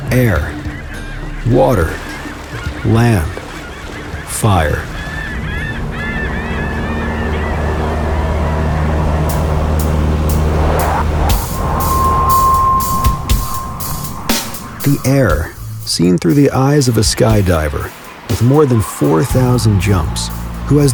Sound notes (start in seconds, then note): 4.7 seagulls cawing; 4.7 tense music